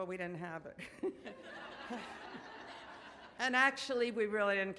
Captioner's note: audience laughs